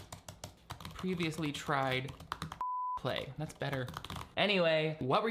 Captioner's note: beep